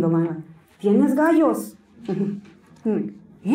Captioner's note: Spanish